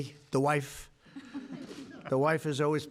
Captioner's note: laughter